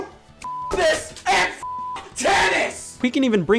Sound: beep

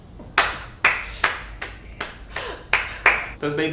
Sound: applause

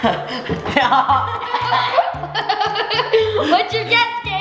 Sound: laughs

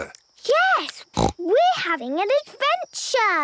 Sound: snort

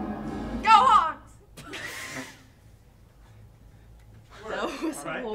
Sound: laughter

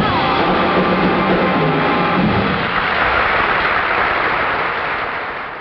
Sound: audience applauds

